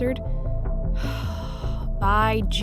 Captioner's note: sighs